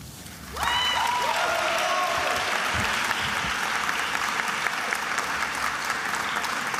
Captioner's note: attendees applauding and cheering